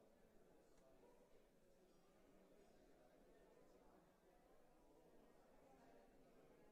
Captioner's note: none